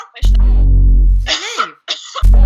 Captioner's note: coughing